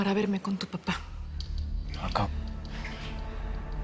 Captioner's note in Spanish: none